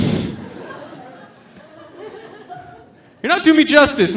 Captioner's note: audience laughing